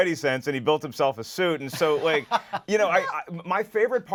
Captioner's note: laughs